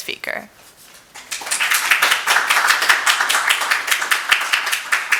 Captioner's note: audience applauding